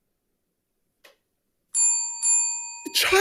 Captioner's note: bell dings